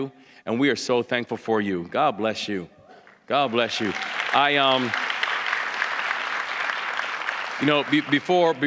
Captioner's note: applause